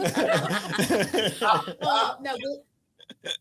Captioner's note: everyone laughs